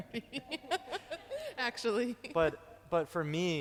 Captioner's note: laughing